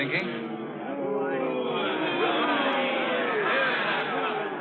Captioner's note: crowd chanting